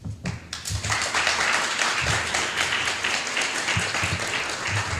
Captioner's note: applause